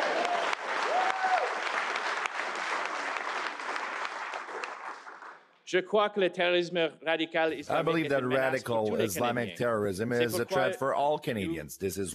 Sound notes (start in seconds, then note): 4.0 cheers and Applause; 10.5 speaking french